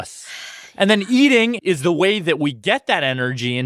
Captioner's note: sighs